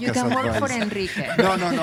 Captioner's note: laughter